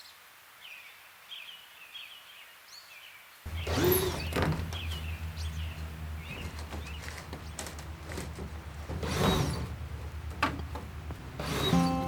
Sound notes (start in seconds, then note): 1.3 birds chirping; 2.6 nature ASMR; 8.9 sound from using tools to unscrew greenhouse panel